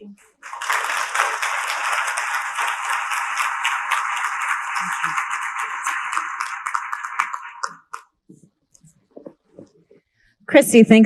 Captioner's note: applause